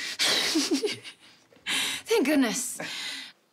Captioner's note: laughs